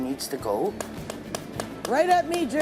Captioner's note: tapping noise